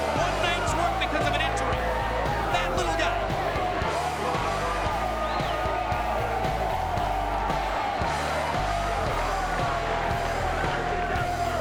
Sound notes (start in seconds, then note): 3.7 crowd chattering; 3.7 upbeat music